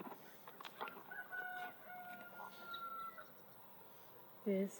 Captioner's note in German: Hahn kräht